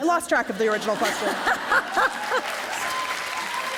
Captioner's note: laughter